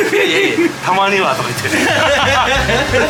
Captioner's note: laughs